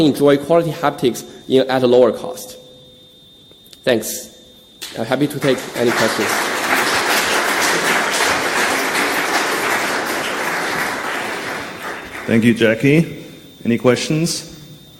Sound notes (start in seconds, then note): 6.9 audience clapping